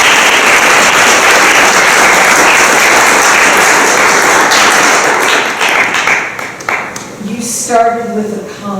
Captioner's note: applause